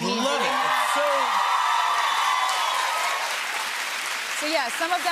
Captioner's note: cheers and applause